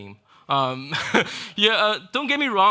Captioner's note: laughing